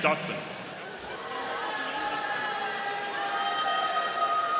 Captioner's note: audience cheering